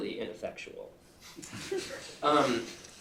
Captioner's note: laughter